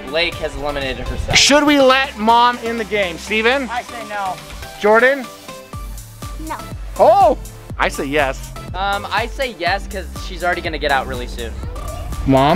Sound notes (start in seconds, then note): none